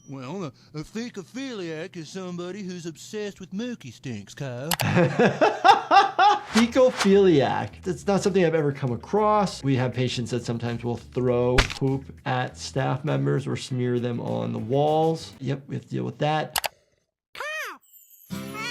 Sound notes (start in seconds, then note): 4.8 laughs